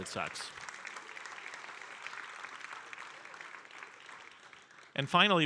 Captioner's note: audience applauding